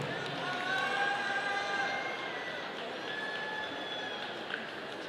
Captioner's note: audience cheering